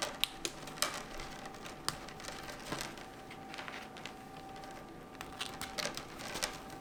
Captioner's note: the sound of the dryer running